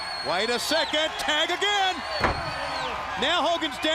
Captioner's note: crowd cheering